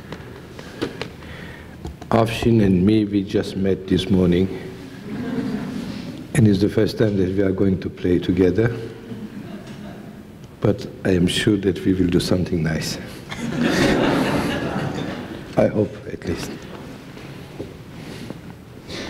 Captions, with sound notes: Afshin and me, we just met this morning. And this is the first time that we are going to play together. But I am sure that we will do something nice. [LAUGHTER] I hope at least.